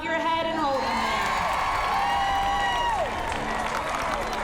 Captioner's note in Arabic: هتاف